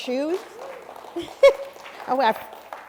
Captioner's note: cheers and applause